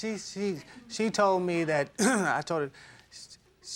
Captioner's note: clears throat